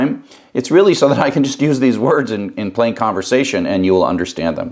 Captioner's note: laugh